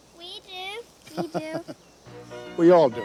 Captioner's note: Andrew laughing